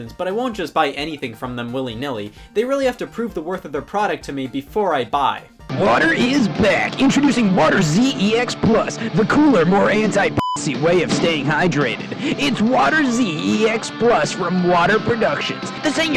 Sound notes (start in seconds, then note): 10.3 beeps